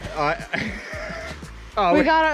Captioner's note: laughs